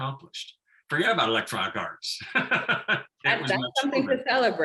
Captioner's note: laughing